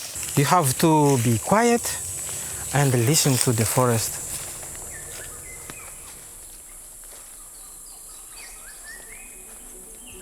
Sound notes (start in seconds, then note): 6.1 birds chirping